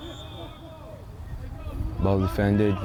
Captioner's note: whistle